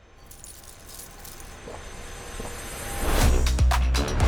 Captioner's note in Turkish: ayakkabı şıngırdar; yutma sesleri